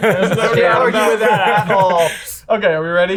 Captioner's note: all laughing